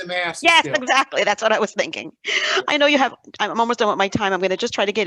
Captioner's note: she laughs